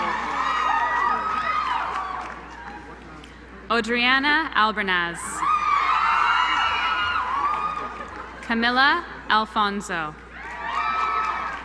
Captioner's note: applause